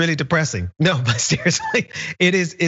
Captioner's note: laugh